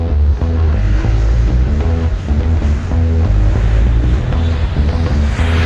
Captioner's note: airplane engine roaring